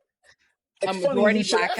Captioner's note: laughing